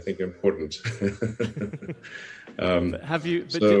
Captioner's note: laughs